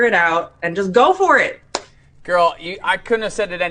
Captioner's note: claps